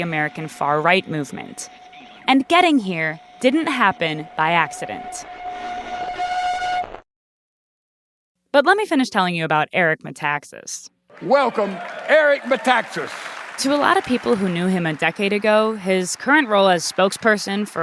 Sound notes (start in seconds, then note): 12.6 clapping